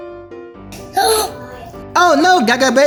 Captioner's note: Gaga Baby gasping